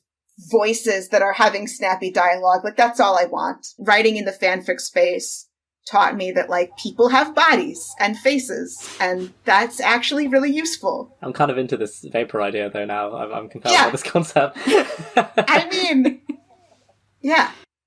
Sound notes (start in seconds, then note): 12.0 laughing